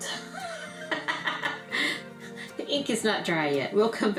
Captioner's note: laughter